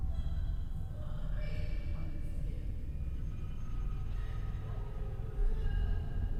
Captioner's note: woman sobbing and chattering indistinctly